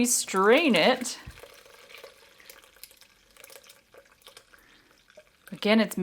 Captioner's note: pouring noise